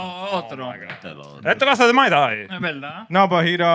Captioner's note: speaking Spanish